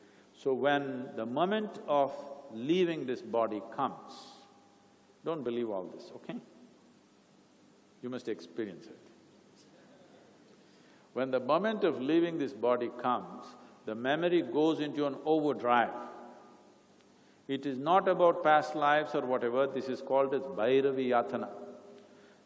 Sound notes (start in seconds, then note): 9.9 laughter